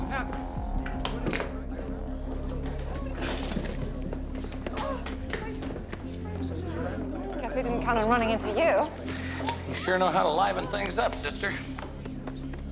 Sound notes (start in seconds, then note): 3.2 crowd murmurs; 7.3 confused murmurs; 11.8 heckling shouts